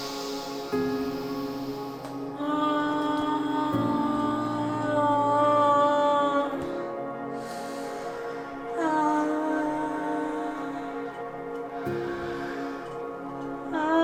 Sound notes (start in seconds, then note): 0.1 soft music; 3.6 breathing deeply